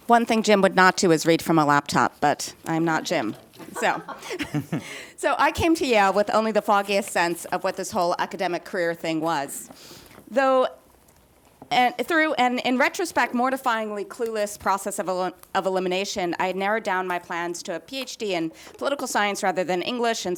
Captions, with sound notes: - One thing Jim would not do is read from a laptop, but I'm not Jim, so... (panelists laughing) So I came to Yale with only the foggiest sense of what this whole academic career thing was. Through and in retrospect, mortifyingly clueless process of elimination, I had narrowed down my plans to a PhD in political science rather than English,